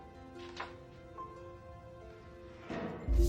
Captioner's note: suspenseful music; clattering